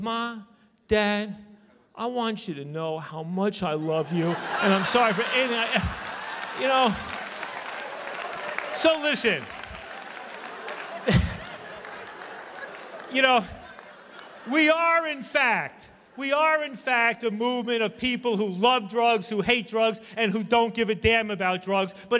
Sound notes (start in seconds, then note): 6.3 laughter; 10.6 laughs